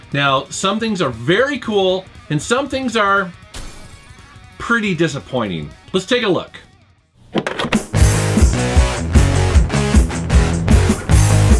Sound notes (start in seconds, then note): 3.5 glass breaks